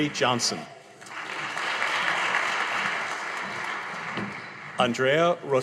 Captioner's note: audience applauding